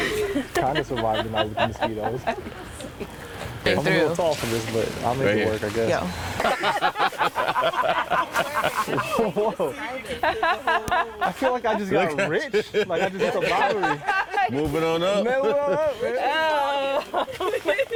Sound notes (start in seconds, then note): 6.2 group laughs